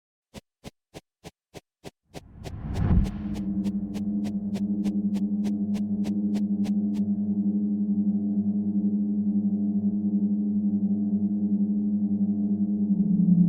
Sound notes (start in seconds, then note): 0.3 shuffling sound; 2.7 ominous music